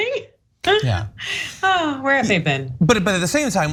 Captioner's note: laugh